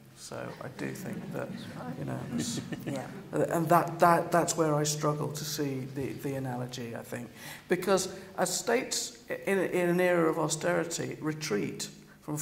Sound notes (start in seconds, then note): 2.2 laughter